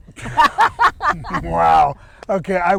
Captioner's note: laughing